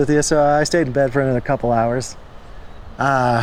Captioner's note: laughs